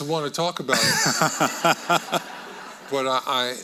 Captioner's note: audience laughing